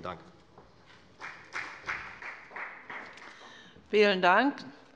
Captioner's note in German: Beifall bei der FDP